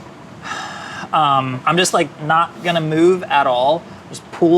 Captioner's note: sighs